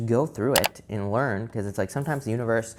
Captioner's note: computer mouse clicks